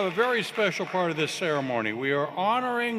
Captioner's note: cheers and Applause